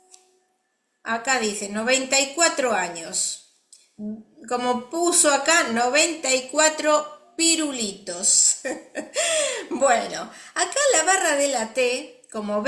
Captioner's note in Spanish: risas